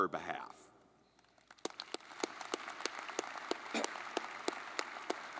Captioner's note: audience clapping